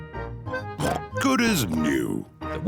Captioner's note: oinks